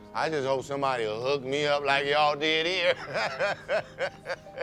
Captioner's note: laughs